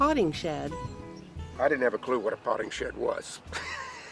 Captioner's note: laughs